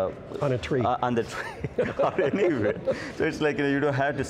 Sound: laughs

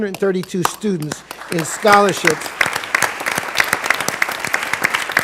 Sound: applause

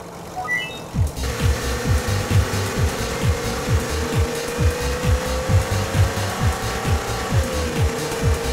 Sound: engine revving, music pumping

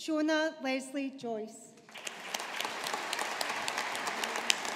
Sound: audience applauding

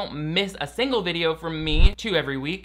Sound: logo whooshing

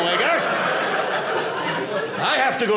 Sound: audience laughing

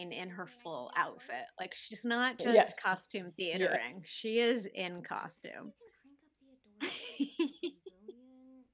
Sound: giggling

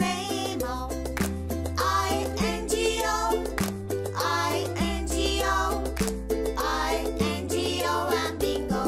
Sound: clap

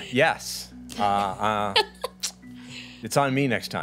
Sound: women laughing

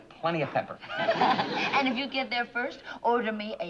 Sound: laughs

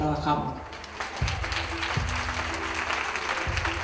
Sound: applause

